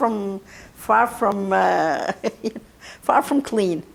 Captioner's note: laughing